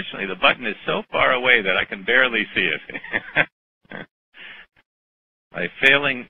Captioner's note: laughter